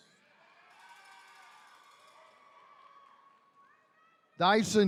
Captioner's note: attendees cheering